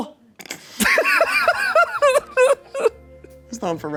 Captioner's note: everyone laughs